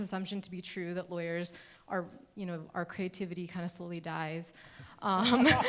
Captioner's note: laughing